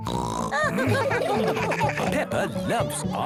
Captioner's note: snorting; laughter